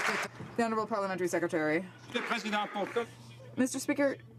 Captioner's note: some Applause